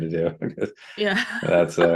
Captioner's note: laughter